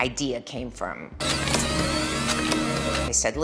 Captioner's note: machines whirring loudly